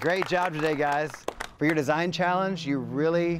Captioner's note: group applauds